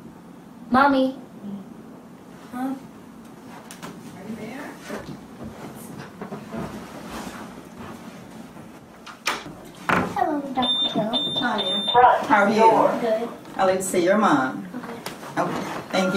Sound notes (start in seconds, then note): 10.6 alarm; 10.6 beeping